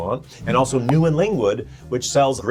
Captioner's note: graphic pops